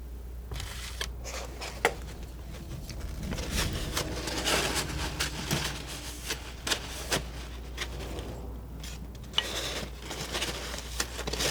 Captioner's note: scratching